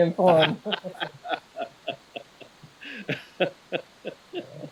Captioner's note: both laughing